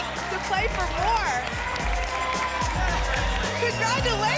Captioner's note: applause and cheering